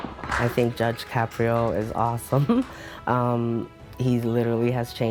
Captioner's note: banging; chuckles